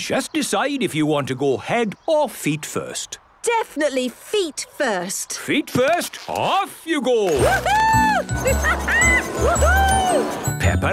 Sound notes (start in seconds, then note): 7.4 laughing